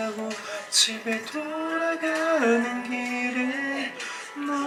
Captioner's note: inhale